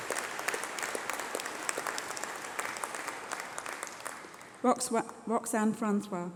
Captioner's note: applause